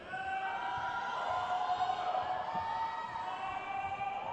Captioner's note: crowd cheers